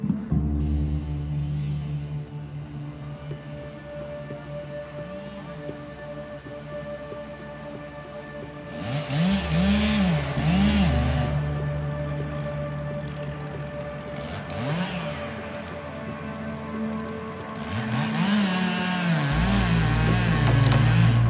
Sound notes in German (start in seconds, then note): 0.2 sphärische Musik; 8.7 Motorsägenlärm